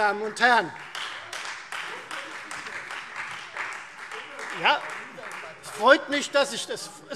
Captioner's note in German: Beifall Freie Demokraten - Heiterkeit BÜNDNIS 90/DIE GRÜNEN